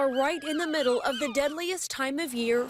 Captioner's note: nats ambulance siren